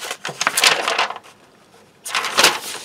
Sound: paper crinkles

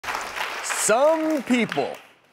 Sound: crowd applause

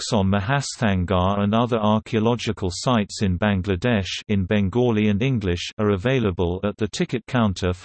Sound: in Bengali and English

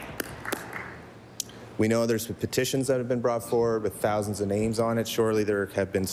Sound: applause

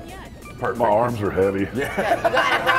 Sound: laugh

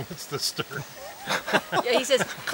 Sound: laughter

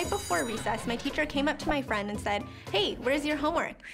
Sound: bell rings

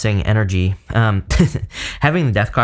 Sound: chuckles

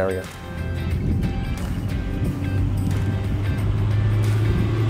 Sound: motor running

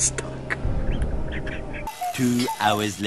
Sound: quiet laughing

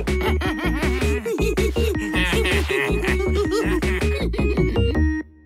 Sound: all laugh

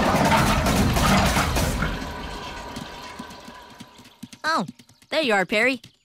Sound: water draining

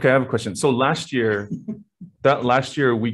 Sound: laughing

